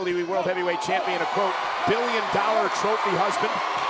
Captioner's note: crowd cheers